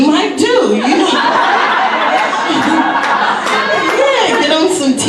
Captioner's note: audience laughs